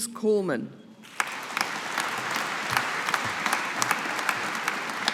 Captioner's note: audience applauding